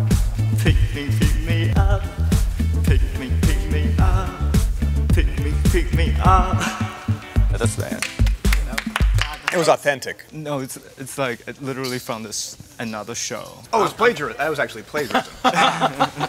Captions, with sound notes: Pick me, pick me. Pick me, pick me. Pick me, pick me. [LAUGH] >> [APPLAUSE] >> That was- >> It was authentic. >> No, it's like, it literally from another show. >> It was plagiarism. That was actually plagiarism. >> [LAUGH].